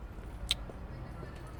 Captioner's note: kiss